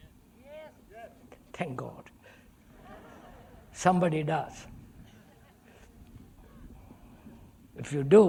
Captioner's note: laughter